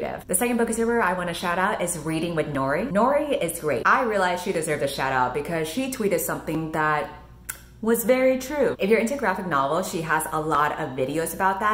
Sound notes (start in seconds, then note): 7.4 clicks